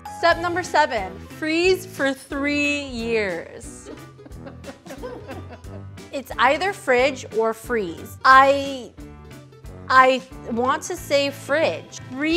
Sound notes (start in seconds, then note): 3.8 group laughing